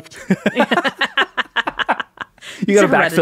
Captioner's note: laughing